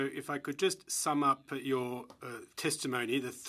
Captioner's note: speaking French